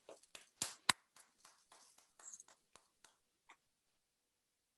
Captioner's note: claps